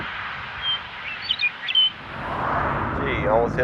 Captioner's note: bird